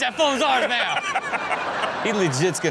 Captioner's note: everyone laughs